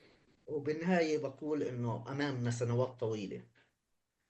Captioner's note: speaking arabic